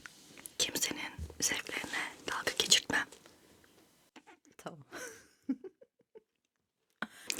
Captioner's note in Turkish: kahkaha